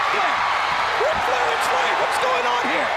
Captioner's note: crowd cheering